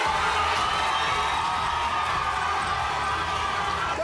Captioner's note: crowd cheering